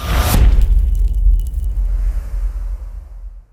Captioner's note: impact